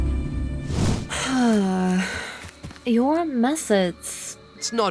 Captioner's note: sighs